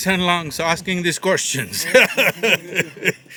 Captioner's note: laughs